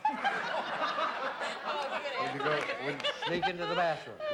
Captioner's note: all laughing